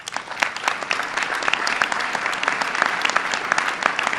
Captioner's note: applause